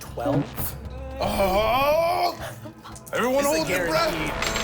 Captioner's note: groans